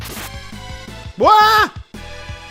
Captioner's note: girlish scream